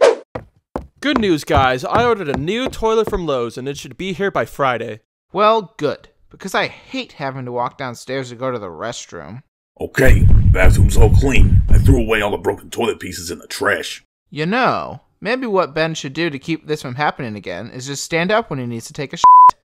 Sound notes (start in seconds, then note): 0.0 scene change whoosh; 0.3 footsteps; 9.6 large footsteps